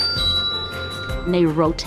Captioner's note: timer dings